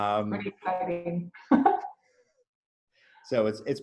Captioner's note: laughs